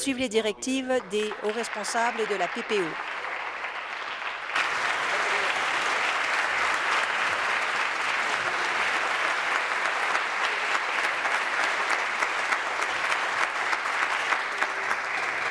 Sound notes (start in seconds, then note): 4.0 applause